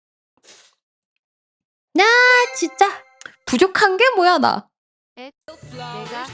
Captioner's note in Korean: 콧방귀